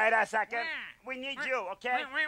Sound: Eugene exclaiming

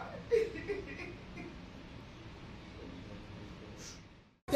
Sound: continued sobs

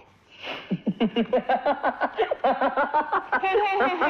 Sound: laughing

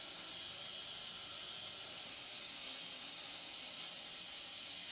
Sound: saw whirring

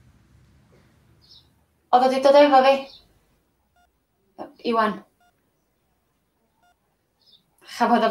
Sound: bird song. monitor beeps

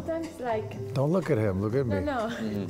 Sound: laughs

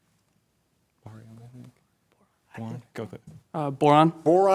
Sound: whispers

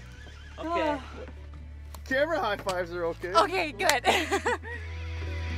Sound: laughing

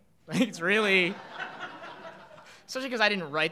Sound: audience laughing

